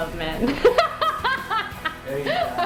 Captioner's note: laughing